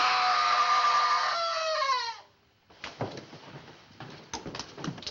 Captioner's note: Helen Screams